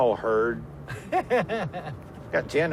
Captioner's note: laughs